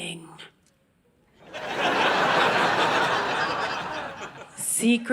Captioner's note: audience laughing